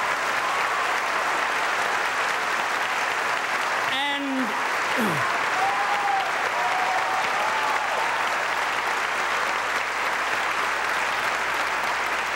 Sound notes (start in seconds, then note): 5.2 audience applauding